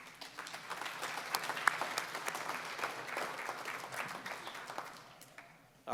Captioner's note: applause